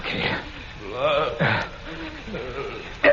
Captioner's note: whimpering